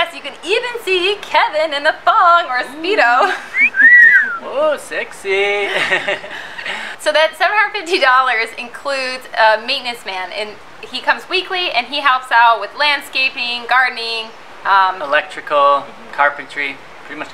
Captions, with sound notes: You can even see Kevin in a thong or a speedo [sexy whistle] Woah sexy So that $750 includes a maintenance man And he come weekly and helps out with landscaping, gardening Electrical, carpentry